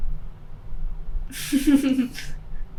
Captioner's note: laughing